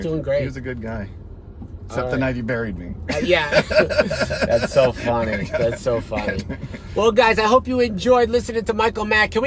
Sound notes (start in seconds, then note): 3.2 laughs